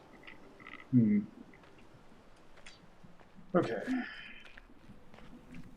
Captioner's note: sighing